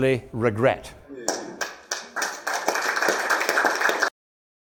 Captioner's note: applause